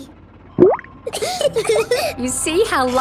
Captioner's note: bubbles; laughing